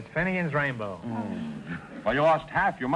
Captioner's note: groaning